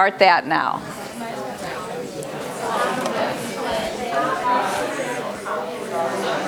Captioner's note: chatter